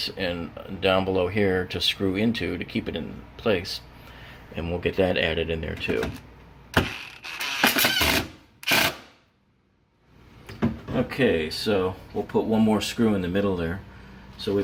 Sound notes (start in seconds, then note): 8.6 drill buzzing